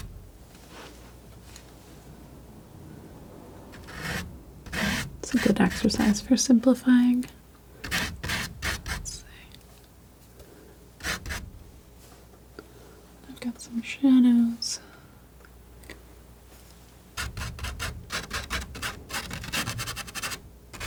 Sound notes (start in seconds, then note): 7.8 scratching; 14.5 scratching